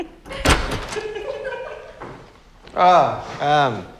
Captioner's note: women giggling